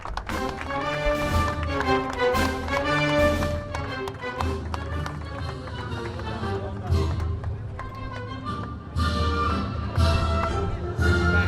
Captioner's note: applause